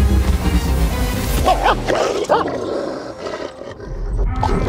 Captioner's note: tension music; barking, growling sounds; tension music and barking, growling sounds